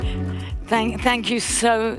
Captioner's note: audience applauding